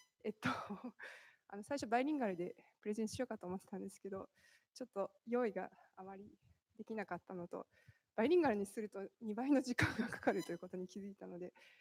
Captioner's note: speaking japanese